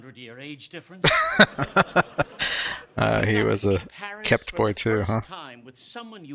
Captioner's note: laughing